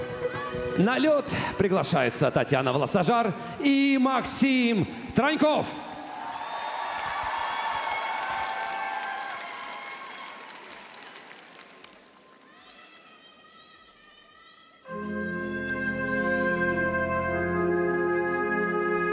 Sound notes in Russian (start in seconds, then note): 9.2 ликование